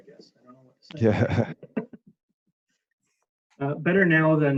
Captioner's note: laughs